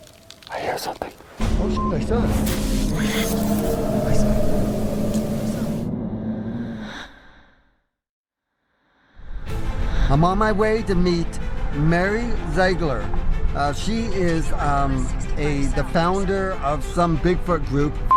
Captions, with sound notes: I hear something. Oh (beep). (eerie music) I'm on my way to meet Mary Ziegler. She is a the founder of some Bigfoot group.